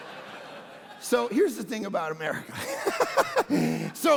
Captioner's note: congregation laughing; laughing